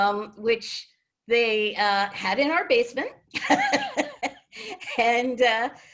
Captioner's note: laughs